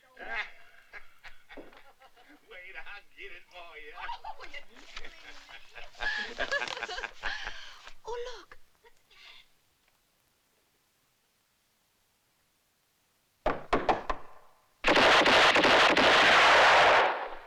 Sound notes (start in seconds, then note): 0.1 guy laughing; 14.8 gunshots